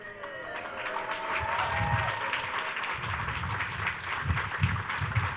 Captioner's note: attendees cheering